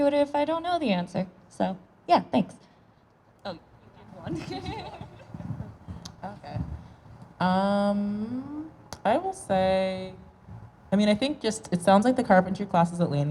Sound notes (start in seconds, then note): 4.2 laughs